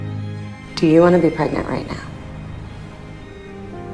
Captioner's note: voiceover